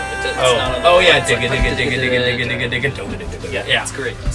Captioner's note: mimicking beats